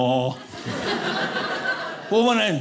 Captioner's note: audience laughing